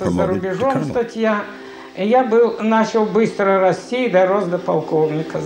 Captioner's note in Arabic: الصوت المنطوق بالروسية